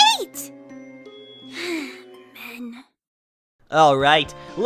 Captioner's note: sighs